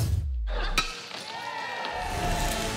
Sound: crowd cheers

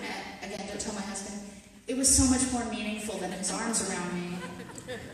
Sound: audience laughter

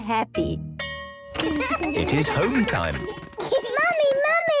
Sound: school bell ringing

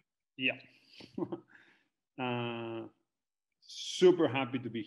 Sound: chuckles

